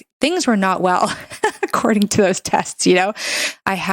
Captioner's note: laughs